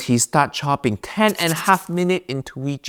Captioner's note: pencil scribbling